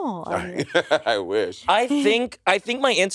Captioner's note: Monét laughing